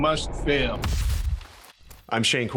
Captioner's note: logo thudding